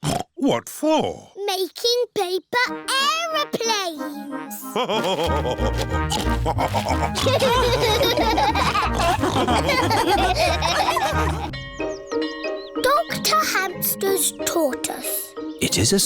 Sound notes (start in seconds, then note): 0.2 snorts; 4.7 laugh and snorts; 7.2 all laughing; 11.5 bell tolling